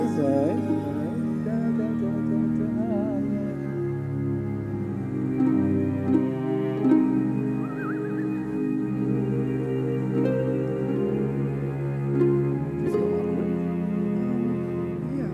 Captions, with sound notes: - Breathless, alright, alright. (singing along) (whistling) - It still awkward? - Yeah.